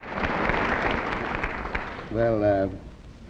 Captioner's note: audience applauds